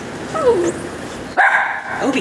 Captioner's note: dog whimper; dog bark